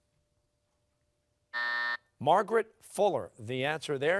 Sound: buzzer sounding

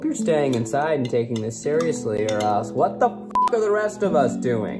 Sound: beep

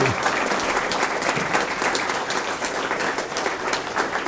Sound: applause

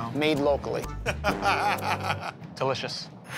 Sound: laughter

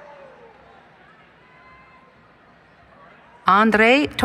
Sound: cheering

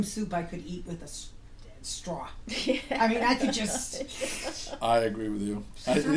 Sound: voiceover; slurps; voiceover

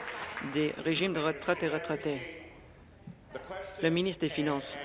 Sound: applause

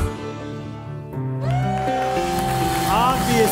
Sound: cheering and applause

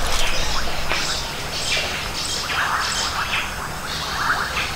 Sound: many birds chirping

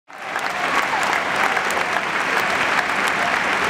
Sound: applause

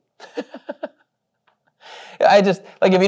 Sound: laughs

